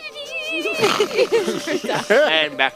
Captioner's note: flute noises; heavy snoring